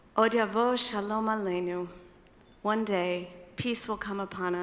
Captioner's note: speaking in foreign language